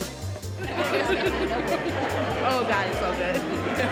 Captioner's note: both laughing